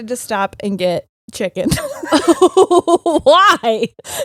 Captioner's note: both laughing